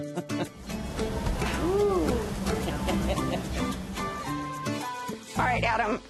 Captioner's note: laughs; laughs